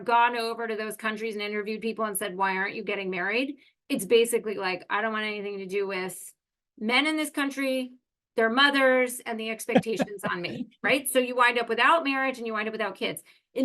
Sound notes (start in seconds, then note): 9.7 laugh